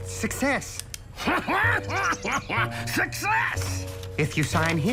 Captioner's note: laughs